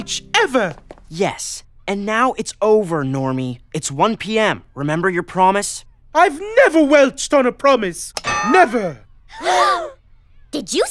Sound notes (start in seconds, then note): 9.0 gasp